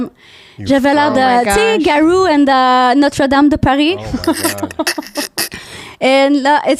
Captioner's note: french